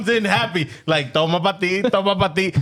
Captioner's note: speaking In Foreign Language